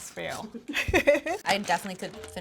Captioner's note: giggles